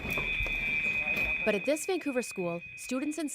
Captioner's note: earthquake alarm chimes